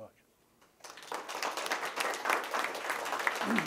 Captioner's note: students clapping